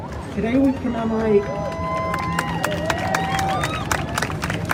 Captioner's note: crowd cheers